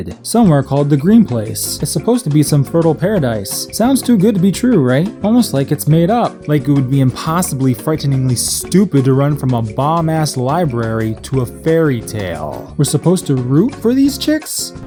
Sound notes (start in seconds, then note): none